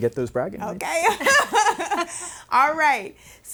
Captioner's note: laughing